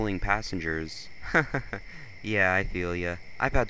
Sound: chuckles

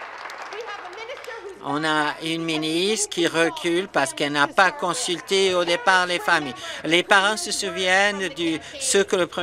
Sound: some Applause

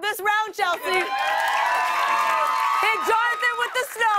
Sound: cheers and applause

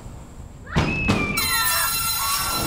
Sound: screams

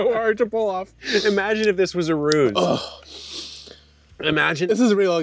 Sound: grunts

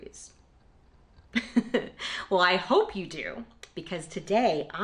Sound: laughter

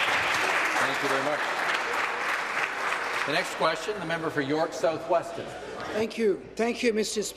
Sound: applause

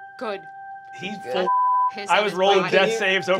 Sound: beep

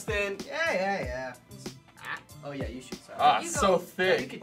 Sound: laughing

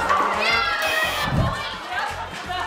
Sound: screeching; buzzer

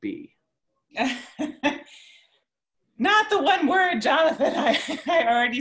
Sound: laughs

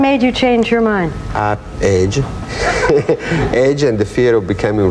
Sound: laughs

